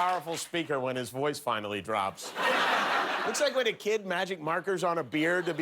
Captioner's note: applause